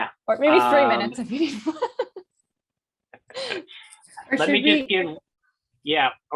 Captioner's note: laughing